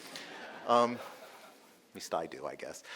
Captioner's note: audience laughing